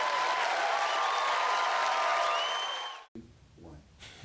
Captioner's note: audience applauds